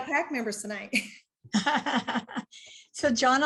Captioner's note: chuckles